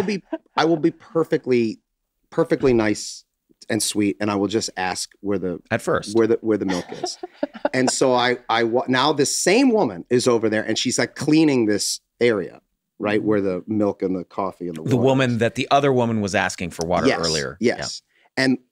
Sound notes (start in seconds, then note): 6.6 Megan laughs